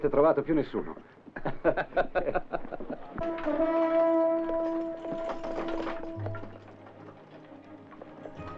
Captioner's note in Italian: Risate